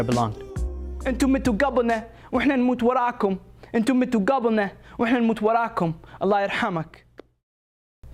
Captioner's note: speaking in Arabic